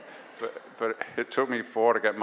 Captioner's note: audience laughs